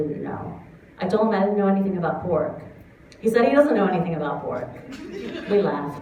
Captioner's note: laughter